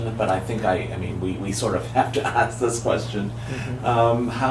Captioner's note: laughs